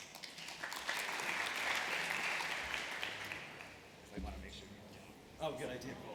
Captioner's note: applause